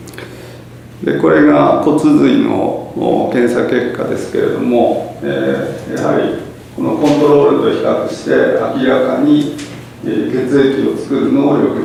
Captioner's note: japanese